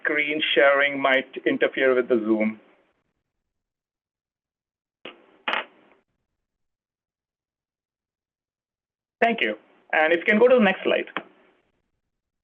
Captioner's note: pause